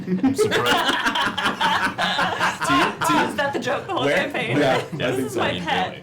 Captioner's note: laughter